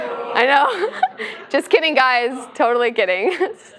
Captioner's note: laugh